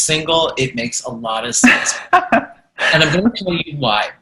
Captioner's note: laughing